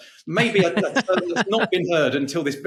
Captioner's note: laughing